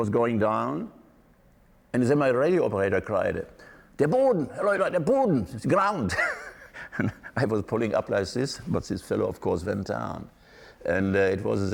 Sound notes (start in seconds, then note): 4.6 speaking German; 6.1 laughing